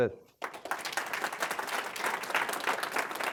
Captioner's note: applause